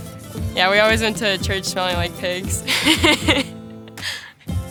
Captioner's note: laughs